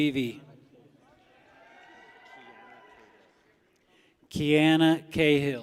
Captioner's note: people cheer